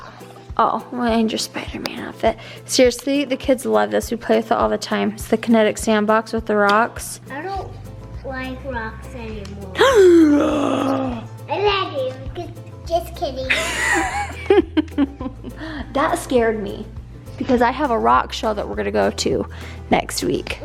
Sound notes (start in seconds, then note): 9.8 gasps; 13.5 laughs